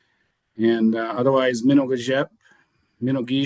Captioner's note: speaking foreign language